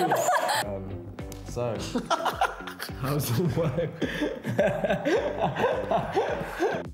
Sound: laughs

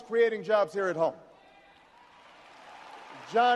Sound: audience cheers and applauds

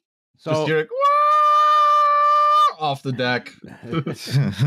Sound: waaaaaaaahhh; chuckles

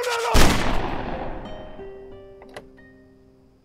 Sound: gun shot

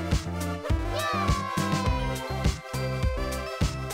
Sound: characters cheering

